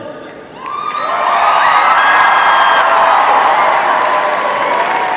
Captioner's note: cheers